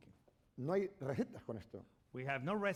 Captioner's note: speaking spanish